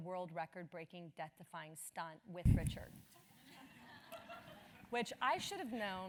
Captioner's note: laugh